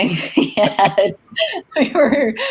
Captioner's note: laughs